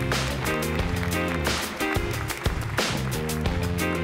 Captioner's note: applause